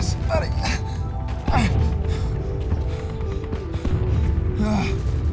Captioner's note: Stephen gasping